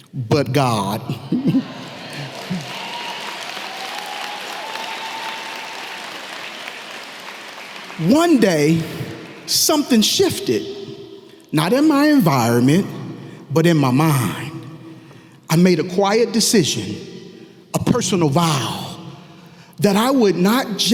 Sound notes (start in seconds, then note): 1.2 audience clapping and cheering